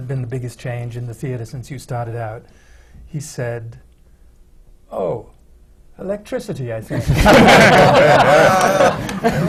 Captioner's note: laughter